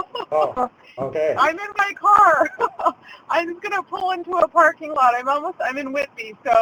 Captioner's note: laughs